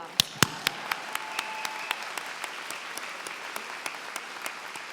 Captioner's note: applause